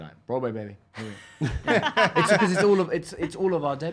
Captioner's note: laughing